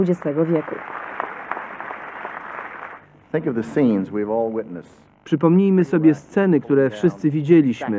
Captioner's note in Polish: Aplauz